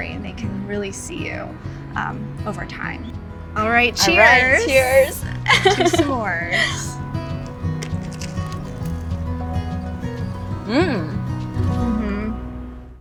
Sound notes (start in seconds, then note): 7.1 gentle rhythmic music; 7.2 food crunching; 10.6 both humming approvingly